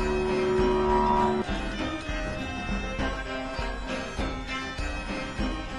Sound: car engine roars

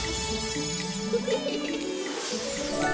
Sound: cheering

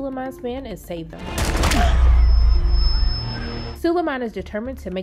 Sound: gun shooting

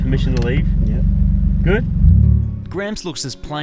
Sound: engine revs

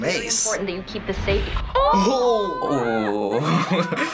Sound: chuckles

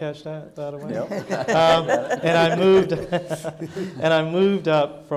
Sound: audience laughing

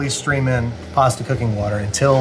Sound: blender whirring

